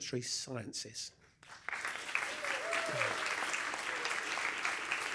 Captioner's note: applause